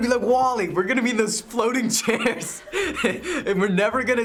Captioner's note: laughs